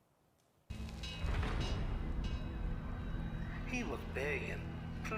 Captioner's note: bells ring